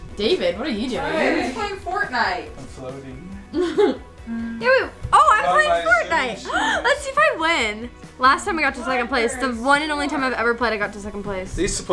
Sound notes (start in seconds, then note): 6.4 gasp